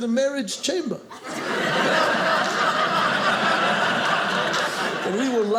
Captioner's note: audience laughing